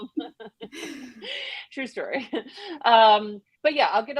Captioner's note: laughs